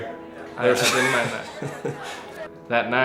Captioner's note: laughter